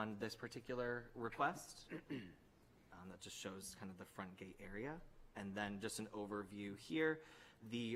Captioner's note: clears throat